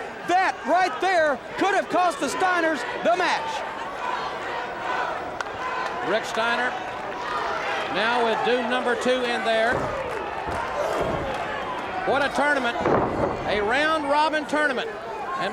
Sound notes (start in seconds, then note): 4.5 audience chanting